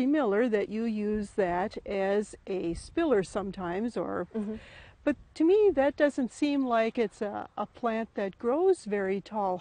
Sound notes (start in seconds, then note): 4.3 humming